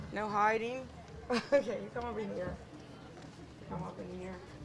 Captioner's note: laughing